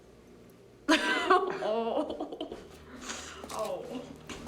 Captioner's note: laughs, Groans